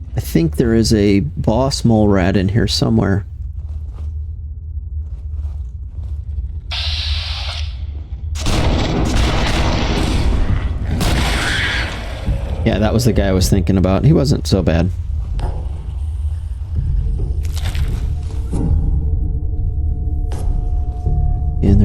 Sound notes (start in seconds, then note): 12.6 electricity buzzing; 12.6 exploding; 18.0 soft music